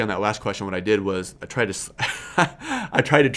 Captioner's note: laughs